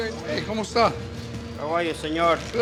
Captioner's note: speaks Spanish